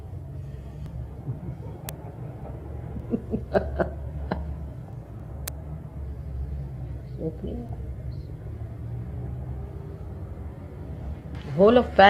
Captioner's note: laughter